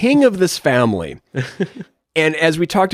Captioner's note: chuckles